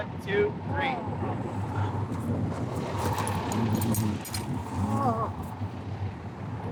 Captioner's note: groaning